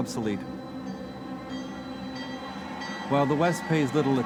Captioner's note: bell clanging